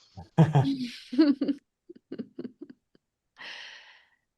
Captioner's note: laughing